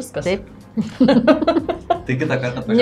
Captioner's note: laughs in Lithuanian